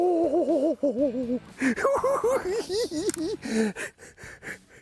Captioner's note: cackling